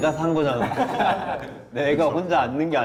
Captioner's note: hehehehehe